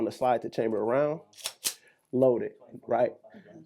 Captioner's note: slide clacks